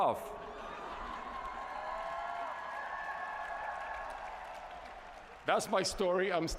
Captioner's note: cheering